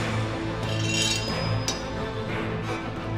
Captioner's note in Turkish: Kılıç sesi; Müzik - Gerilim